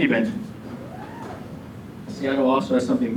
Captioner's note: audience member whoops